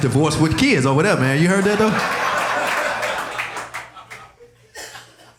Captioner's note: audience laughing